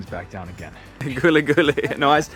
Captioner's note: speaking foreign language